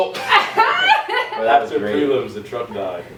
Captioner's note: everybody laughs